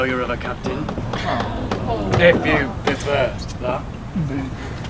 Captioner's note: audience groans in disapproval